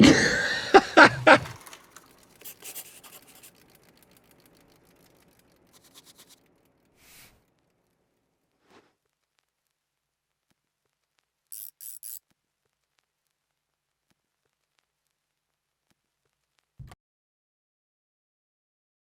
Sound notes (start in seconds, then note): 0.0 laughing; 2.4 pencil scribbling; 11.5 socket wrench ratcheting